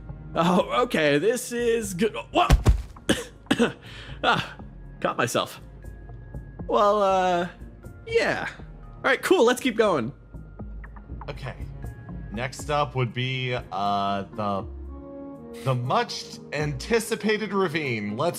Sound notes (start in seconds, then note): 2.4 thud; 3.0 coughs